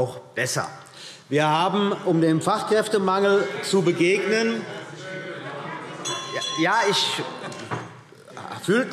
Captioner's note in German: Zurufe – Glockenzeichen